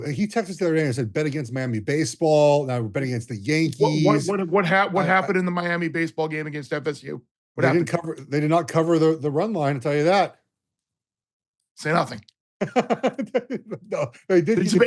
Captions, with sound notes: He texted us the other day and said bet against Miami baseball. Now we're betting against the Yankees. What happened in the Miami baseball game against FSU? What happened? They did not cover the run line, I'll tell you that. Say nothing. [LAUGHS]